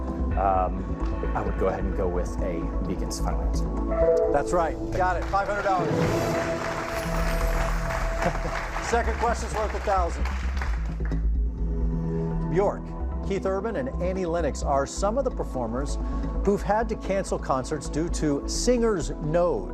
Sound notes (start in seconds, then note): 6.8 applause; 8.1 laughs